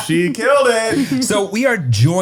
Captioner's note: laughter